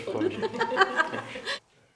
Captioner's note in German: Lachen